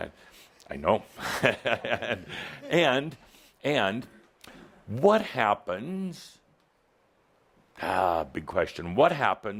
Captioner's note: Adamus chuckles